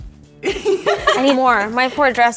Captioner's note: all giggling